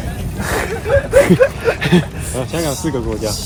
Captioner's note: laugh